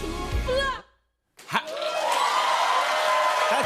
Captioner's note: cheers and applause